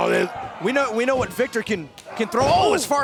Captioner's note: crowd cheering